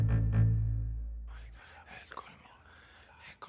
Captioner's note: whispers